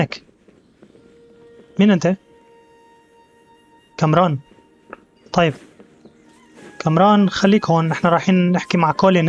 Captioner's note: bird cawing; footsteps